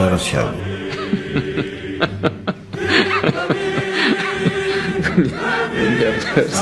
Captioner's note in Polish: śmiech